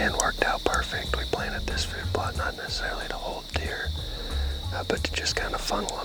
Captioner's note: whispering